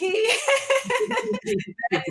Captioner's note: laughs